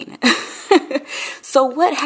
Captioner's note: laughing